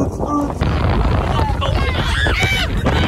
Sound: dad mimics dance music; wind blowing

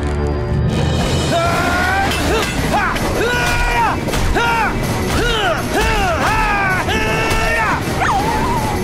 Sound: grunting

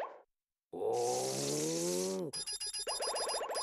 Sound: grunting

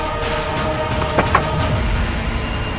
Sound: door creaks

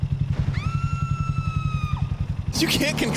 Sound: lady screams

